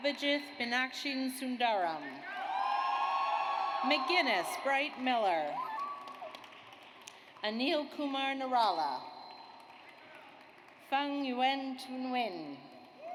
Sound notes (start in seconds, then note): 2.2 audience cheers; 5.5 audience applauds; 9.4 audience applauds